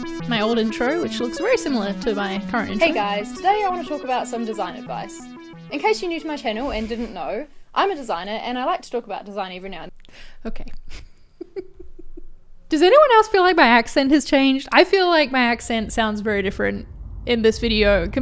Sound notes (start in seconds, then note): 0.0 techno music; 11.4 laughs